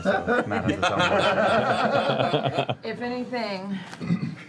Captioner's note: laughter